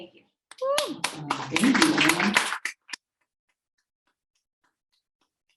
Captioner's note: audience applauding